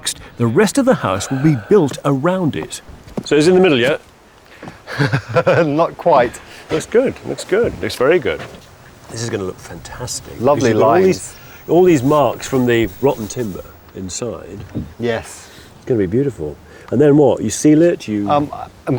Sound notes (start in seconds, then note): 4.8 chuckles